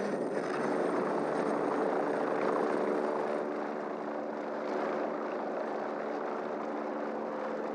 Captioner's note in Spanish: Sonido de helicóptero